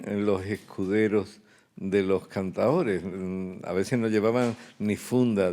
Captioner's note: speaking in Spanish